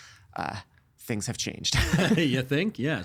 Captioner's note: laughing